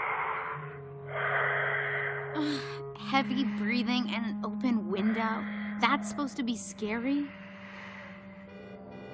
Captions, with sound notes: (Heavy breathing) Heavy breathing and an open window? That's supposed to be scary?